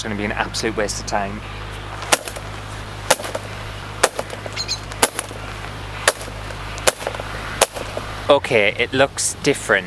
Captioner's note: whipping Sounds